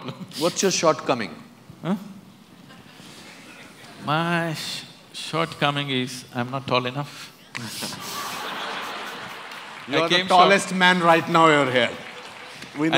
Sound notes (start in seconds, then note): 7.6 laughter